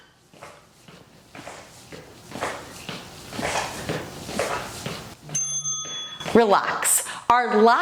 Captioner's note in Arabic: قرع الجرس